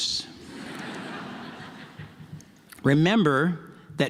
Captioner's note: audience laughs